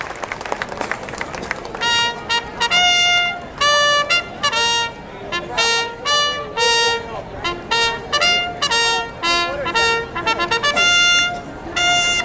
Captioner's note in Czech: Potlesk